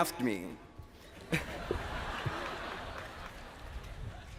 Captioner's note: laughing